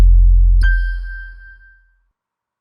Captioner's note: chime sound